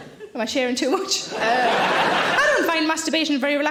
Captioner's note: audience laughing